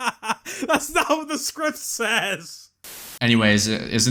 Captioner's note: laughs